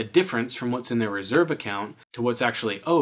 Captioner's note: claps hands